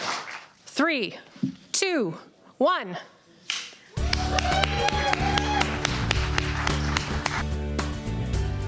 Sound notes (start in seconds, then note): 4.0 cheering